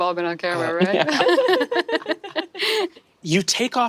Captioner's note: players laughing